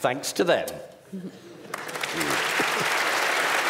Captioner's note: applause